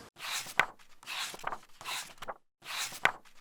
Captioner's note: pages turning